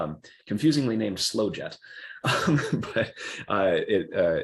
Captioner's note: laughs